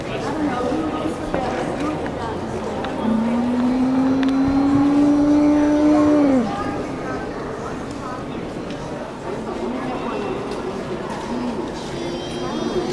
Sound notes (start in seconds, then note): 2.8 dinosaur sounds